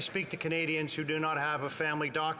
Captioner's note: some Applause